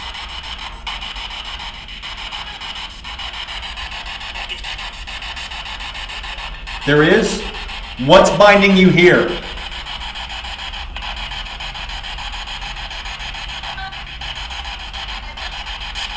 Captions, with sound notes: There is? What's binding you here? (static buzzing)